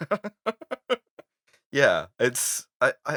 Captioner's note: laughter